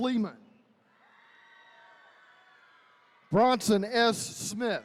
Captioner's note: attendees cheering